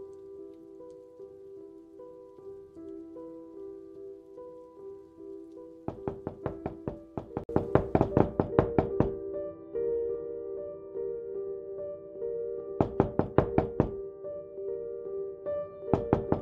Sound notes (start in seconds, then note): 5.9 door knocking; 9.3 dramatic music; 12.8 door knocking